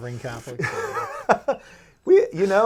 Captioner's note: laughing